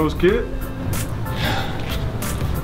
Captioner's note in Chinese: 嘆氣